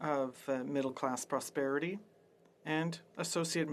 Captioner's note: speaking French